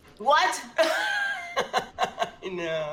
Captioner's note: laughs